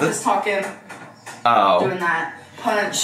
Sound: furniture rattling

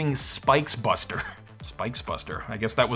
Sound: chuckles

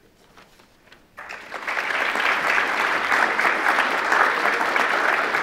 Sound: attendees applauding

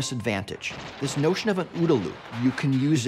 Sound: bullets firing

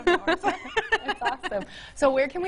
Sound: woman laughing

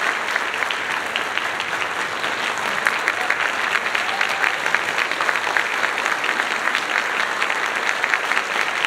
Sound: applause

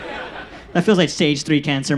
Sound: audience laughs

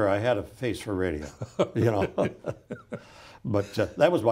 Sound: laughs

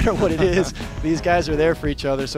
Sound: laughing

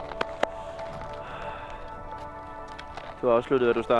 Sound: sighs

